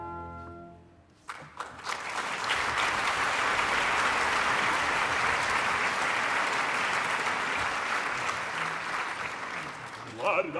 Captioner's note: applause